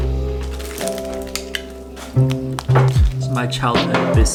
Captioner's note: wrapper rustling